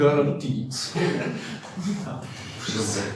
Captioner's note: laughing